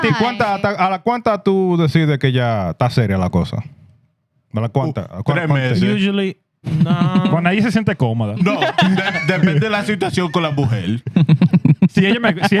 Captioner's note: laughter; speaking Spanish